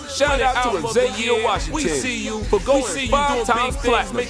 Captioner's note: crowd cheering radio interviews and awards shows praising X the rapper